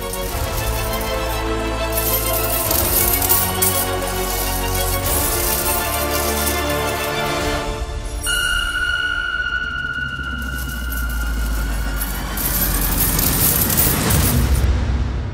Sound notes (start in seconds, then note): 1.7 coins clinking; 12.1 coins clinking